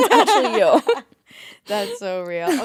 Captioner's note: both laughing